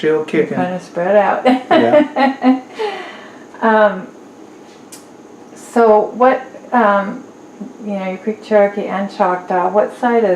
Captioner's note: laughs